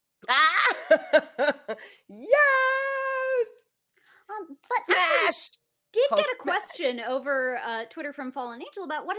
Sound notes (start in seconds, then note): 0.3 laughs